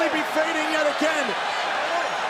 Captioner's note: crowd cheering